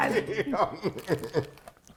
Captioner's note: laughs